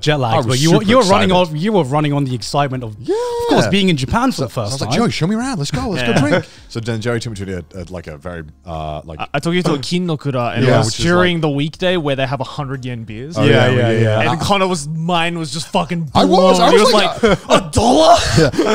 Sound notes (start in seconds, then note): 9.6 speaks Japanese